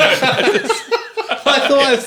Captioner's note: laughing